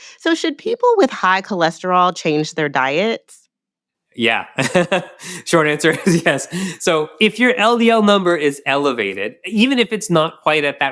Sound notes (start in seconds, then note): 4.2 chuckles